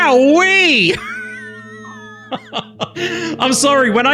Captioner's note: laughs